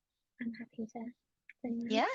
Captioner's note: speaks faintly